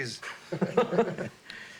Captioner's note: laughing